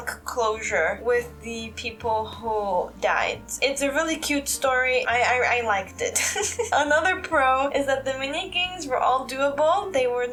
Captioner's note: chuckle